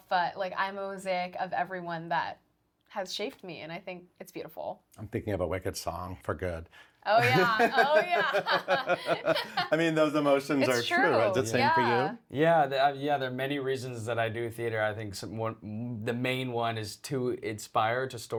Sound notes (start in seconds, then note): 7.2 laughing